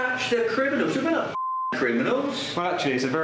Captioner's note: beep